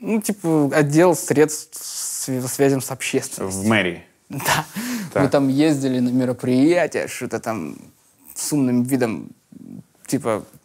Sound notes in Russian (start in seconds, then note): none